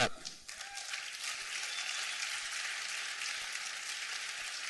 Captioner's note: applause